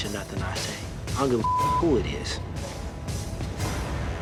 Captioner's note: beep